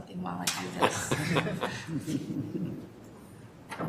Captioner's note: laughter